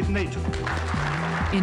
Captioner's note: applause